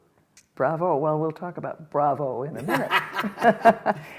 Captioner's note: laughter